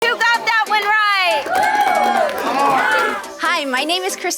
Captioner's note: applause